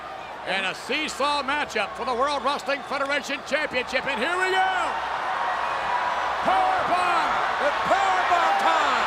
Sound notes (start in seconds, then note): 5.1 audience cheers